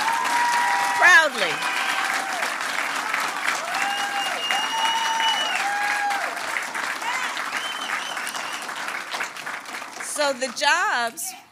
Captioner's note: applause